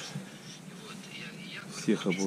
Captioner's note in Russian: у него радио разговаривает